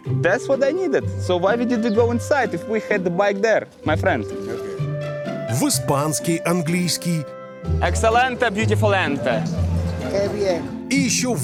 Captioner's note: speaking in English